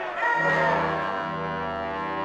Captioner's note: screaming